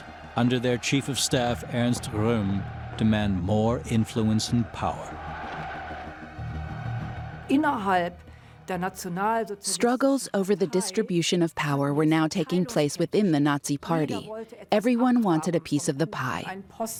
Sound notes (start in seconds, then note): 5.0 crowd clamoring